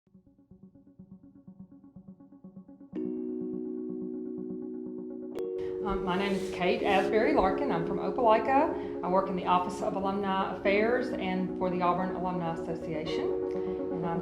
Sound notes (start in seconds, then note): 3.0 chimes; 6.1 voiceover